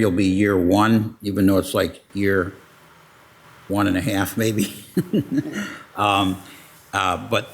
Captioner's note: laughs